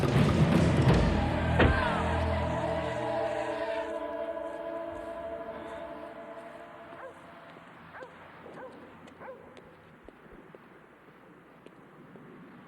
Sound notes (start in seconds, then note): 1.5 door thuds; 4.6 ominous music; 7.4 dog barking; 8.4 feet clacking